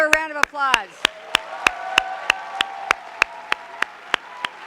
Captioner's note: clapping and cheering